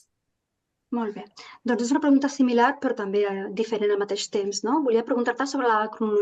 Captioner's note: speaking in Catalan